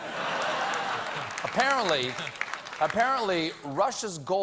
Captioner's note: laughter